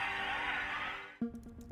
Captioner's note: crowd cheering over phone